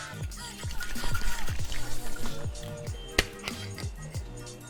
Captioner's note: liquid shaking